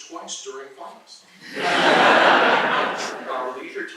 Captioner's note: laughter